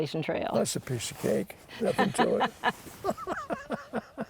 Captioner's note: laughter